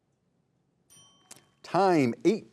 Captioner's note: timer rings